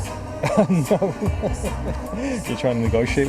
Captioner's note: laughing